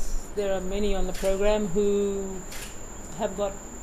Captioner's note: voiceover